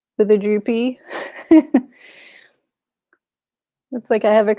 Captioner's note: chuckles